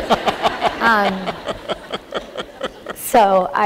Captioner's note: laughter